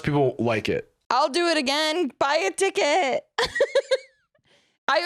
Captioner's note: laughs